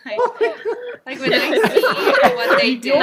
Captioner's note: laughs